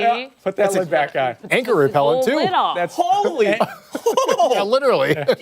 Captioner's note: laughter